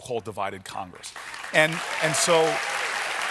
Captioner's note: applause